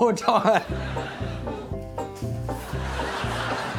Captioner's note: laughs